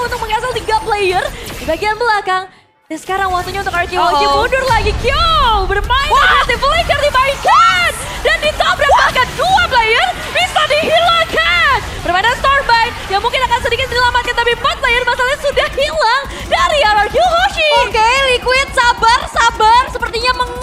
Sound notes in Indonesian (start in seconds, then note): 6.1 berteriak